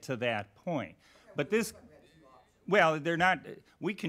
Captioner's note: faint talking in background